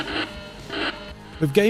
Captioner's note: game sounds